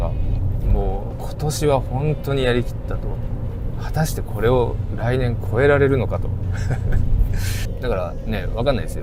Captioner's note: laughs